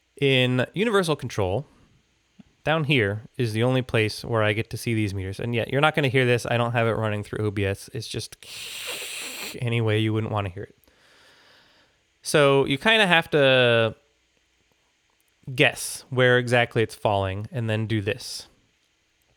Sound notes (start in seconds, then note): 7.8 static noises